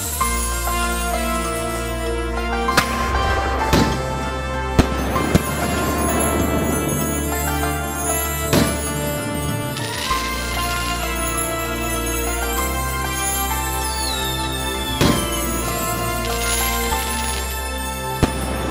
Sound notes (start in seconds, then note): 2.7 crackers bursting